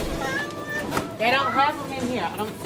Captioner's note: child whining